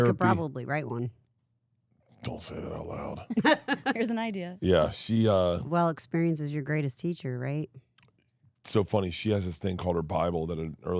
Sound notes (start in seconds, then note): 3.3 laughs